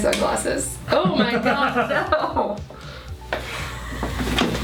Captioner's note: laughing